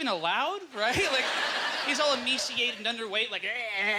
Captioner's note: audience laughter